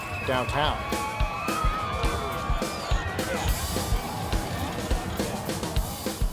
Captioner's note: drumming and loud cheering